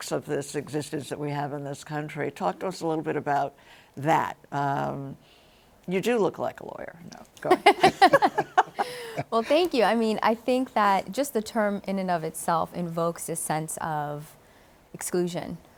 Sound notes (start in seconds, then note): 7.5 laughs